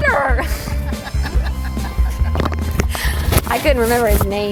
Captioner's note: person laughs